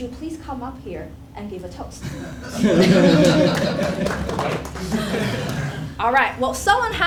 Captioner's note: laugh